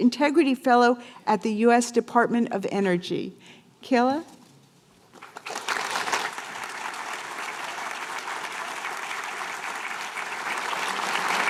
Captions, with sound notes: integrity fellow at the US Department of Energy. Kayla. [APPLAUSE]